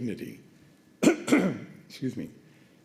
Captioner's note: coughs